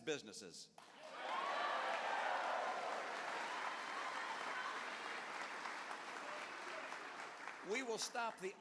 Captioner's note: cheers